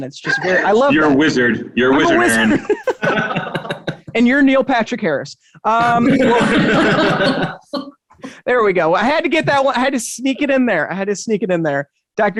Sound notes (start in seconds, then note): 2.2 both chuckling; 5.8 all chuckling